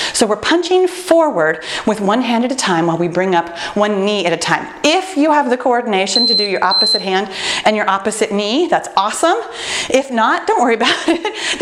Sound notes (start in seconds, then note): 6.1 timer beeping